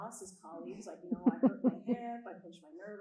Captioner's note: chuckling